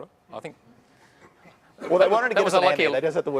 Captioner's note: laughter